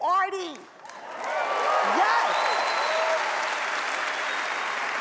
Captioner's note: audience applauds